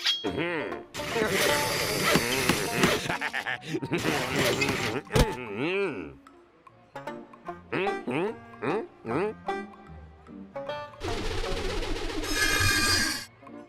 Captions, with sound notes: HM-HMM! (pounding, sawing) HA HA HA HA! MMM! HMM? HMM? HMM? HMM? (pumpkin whooshing)